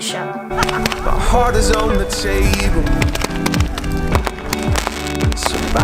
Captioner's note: fireworks exploding